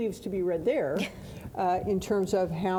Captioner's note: laughing